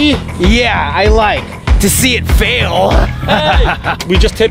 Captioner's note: laughing